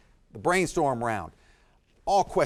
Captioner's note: none